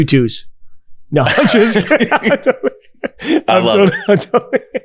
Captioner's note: both laughing